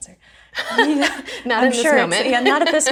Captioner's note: laughs